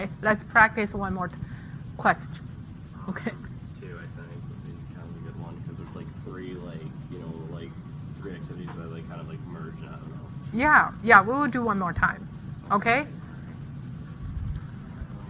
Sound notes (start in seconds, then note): 4.2 softly talking off mic; 9.8 softly mumbling